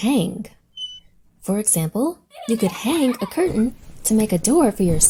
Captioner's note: hanger squeaks; children laugh